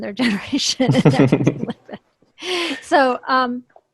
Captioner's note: laughs